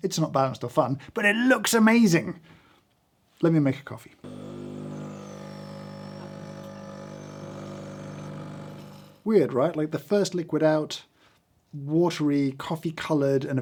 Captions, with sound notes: It's not balanced or fun, but it looks amazing. Let me make a coffee. (machine humming) Weird, right? Like the first liquid out, watery coffee-colored,